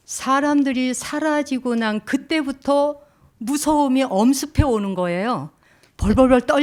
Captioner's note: speaking in Korean